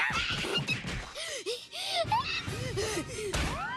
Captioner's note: panting